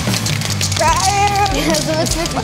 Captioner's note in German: Klackern